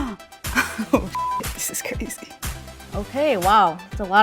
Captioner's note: gasps; beep